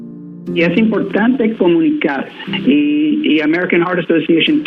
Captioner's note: speaking in a foreign language